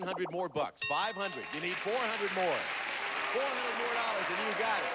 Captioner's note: audience applauding